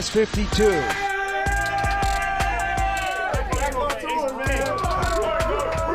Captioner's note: team yelling; team roaring